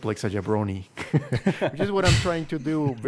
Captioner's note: laughing